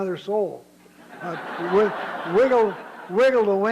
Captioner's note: laughter